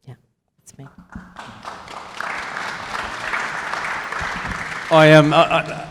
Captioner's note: audience applauding